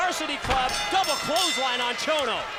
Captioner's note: bell rings